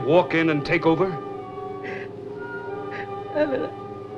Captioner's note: sobbing